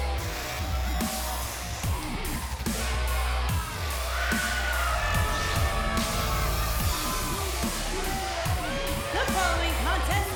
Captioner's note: crowd cheering